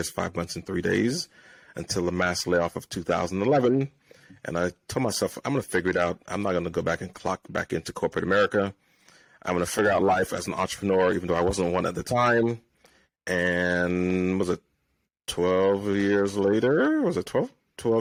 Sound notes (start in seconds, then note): none